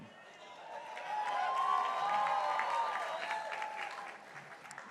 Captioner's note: crowd cheering